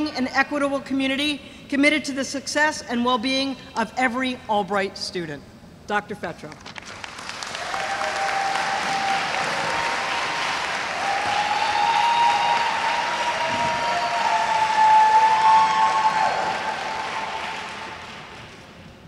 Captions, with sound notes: an equitable community, committed to the success and well-being of every Albright student. Dr. Fetrow. (audience applauds) (audience cheers)